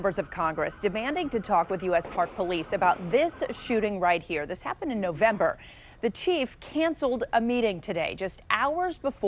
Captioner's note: gunshots and sirens